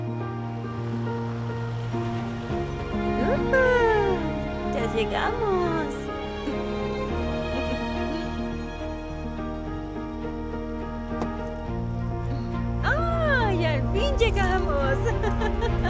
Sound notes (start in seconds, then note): 0.2 Continúa música inspiracional; 6.3 Esperanza ríe